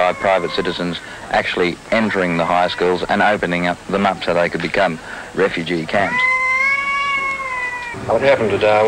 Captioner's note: child wails